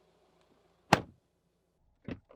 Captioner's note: door Thud